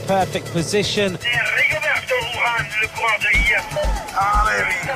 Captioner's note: man speaking foreign language over mic